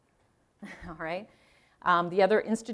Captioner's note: chuckling